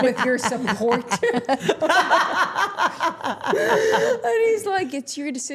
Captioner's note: everyone laughing